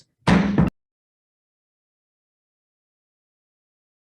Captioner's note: gavel strikes